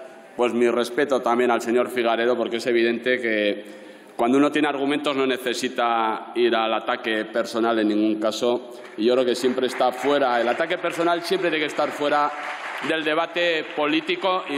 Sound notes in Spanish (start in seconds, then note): 8.7 aplausos